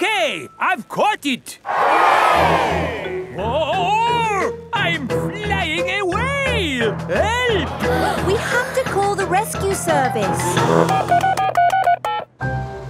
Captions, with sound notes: It's okay. I've caught it! (CROWD CHEERS) Whoa! I'm flying away! Help! We have to call the rescue service! (BEEPING)